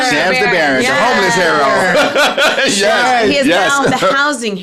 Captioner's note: laughs